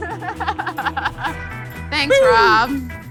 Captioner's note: laughs